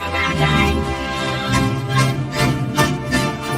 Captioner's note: shouting, groaning